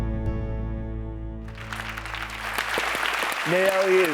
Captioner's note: audience applauding